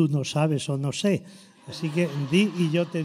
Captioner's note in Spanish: risotada